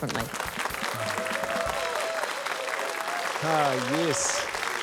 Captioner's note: cheering, applause